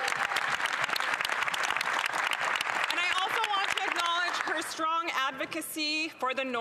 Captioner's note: some Applause